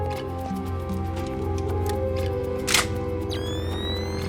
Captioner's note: gun cocks